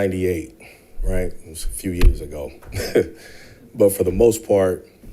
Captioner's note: chuckles